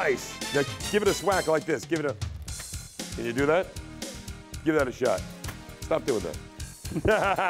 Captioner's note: laughing